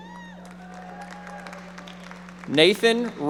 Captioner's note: audience applauding